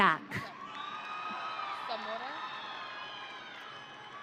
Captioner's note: audience cheering